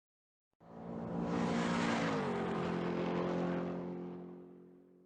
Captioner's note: car engine racing